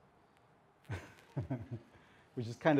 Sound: laughs

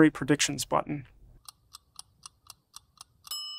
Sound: clock ticking

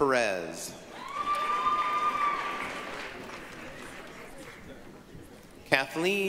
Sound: applause, cheering

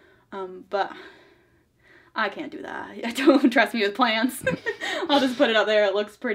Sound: laughs

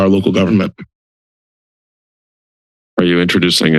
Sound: silence

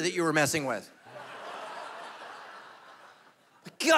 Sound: congregation laughing

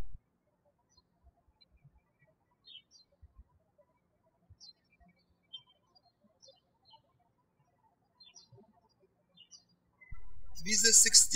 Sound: birds chirping

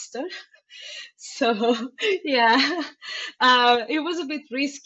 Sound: laughing

